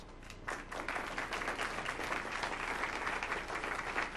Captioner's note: audience applauds